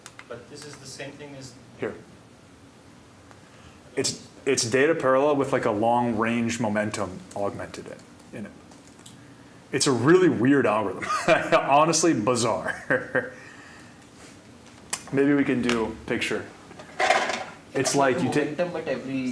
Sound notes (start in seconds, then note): 11.2 laughing